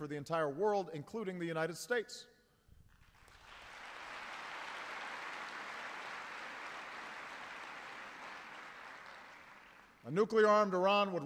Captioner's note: applause